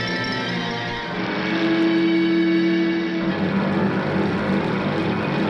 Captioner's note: boat engine rumbling